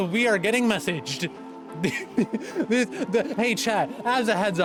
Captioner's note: laughing